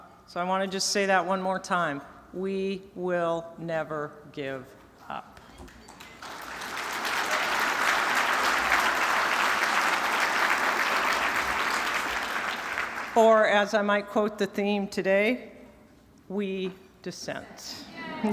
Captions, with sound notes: SO I WANT TO JUST SAY THAT ONE MORE TIME. WE WILL NEVER GIVE UP. [APPLAUSE] OR AS I MIGHT QUOTE THE THEME TODAY, WE DISSENT.